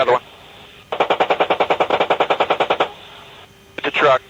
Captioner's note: 20 rounds of machine cannon fire